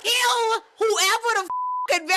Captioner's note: beep